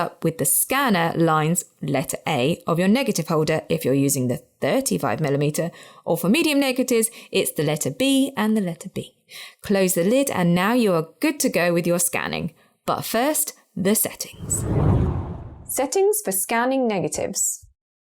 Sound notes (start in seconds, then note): 14.3 video effect whooshes